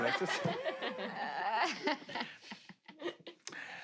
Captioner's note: players laughing